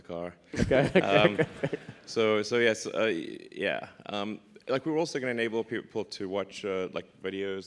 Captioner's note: laughs